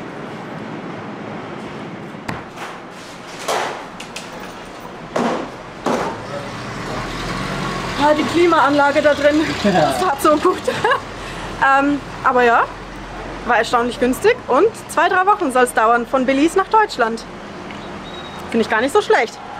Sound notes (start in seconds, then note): 10.2 laughs